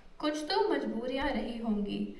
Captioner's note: non-english speech